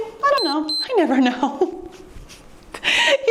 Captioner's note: timer beeps; laughing